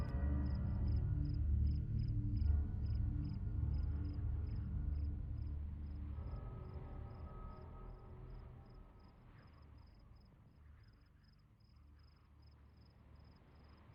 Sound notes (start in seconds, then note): 0.0 insects chirping; 0.3 slow suspenseful music; 4.4 insects chirping